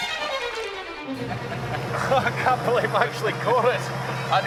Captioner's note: laughs